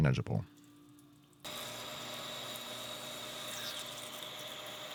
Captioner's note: machine whirring